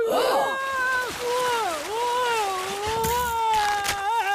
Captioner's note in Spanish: Abuelo gimiendo; grupo jadeando; salpicaduras de agua; Abuelo gimiendo; hamaca rebotando